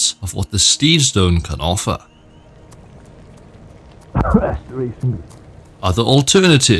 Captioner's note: coughs